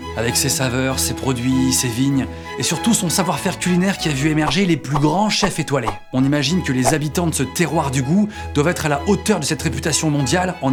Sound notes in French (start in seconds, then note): none